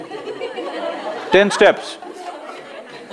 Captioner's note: laughter